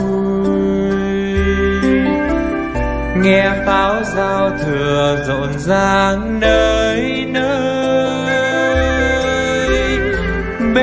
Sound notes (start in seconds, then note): none